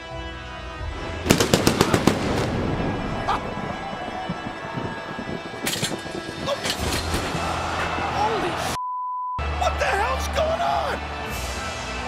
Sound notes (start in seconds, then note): 1.3 lighting buzzes; 3.8 audience cheers; 8.8 beep